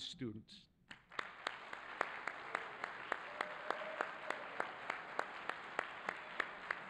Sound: audience applauding and cheering

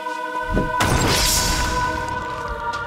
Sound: mystical music; crumbling

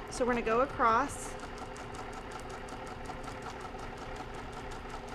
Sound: machine whirring

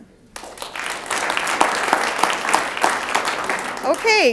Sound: audience applauds

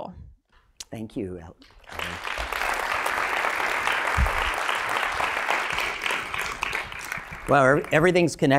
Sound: applause

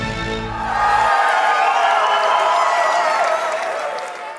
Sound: audience cheers

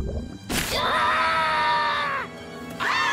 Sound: Space Kid screaming, squirrel yelling; everyone screaming

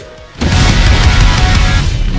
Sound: rock music; explosion

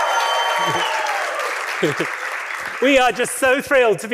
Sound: applause; laughs

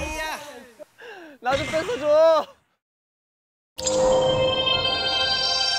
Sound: pleading

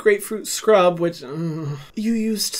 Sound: shudders

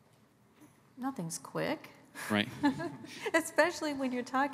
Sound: chuckles

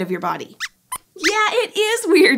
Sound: squeaks squeaks

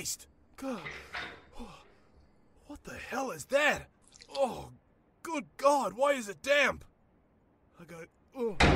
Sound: breathing heavily

